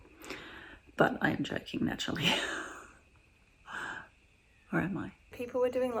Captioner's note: laughs